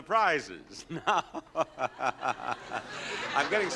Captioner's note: Bob laughing